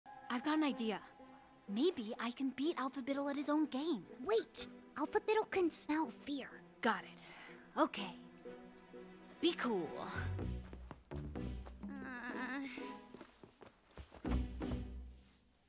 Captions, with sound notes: I've got an idea. Maybe I can beat Alphabittle at his own game. Wait, Alphabittle can smell fear. Got it. Okay, be cool. (dramatic music) (Pony groaning)